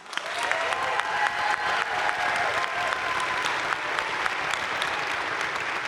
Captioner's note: crowd cheering and applauding